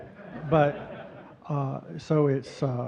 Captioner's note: audience chuckling